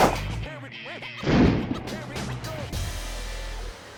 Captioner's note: gun shot; gun shot echoes; rock music plays